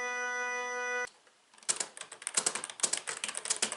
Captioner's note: keyboard clacks